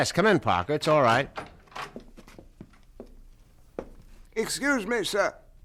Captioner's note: door opens; footsteps approaching